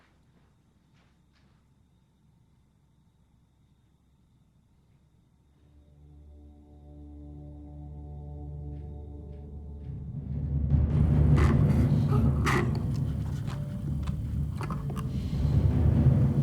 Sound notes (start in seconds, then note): 5.7 somber music; 11.0 dramatic music; 11.1 sipping